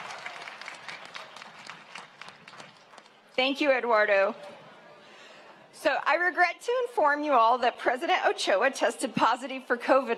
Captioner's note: cheering and applause